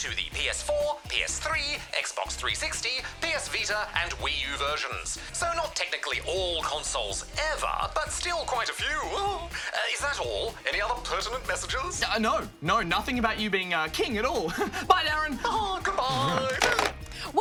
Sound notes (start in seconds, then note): 9.0 chuckles; 14.4 chuckles; 16.0 laughs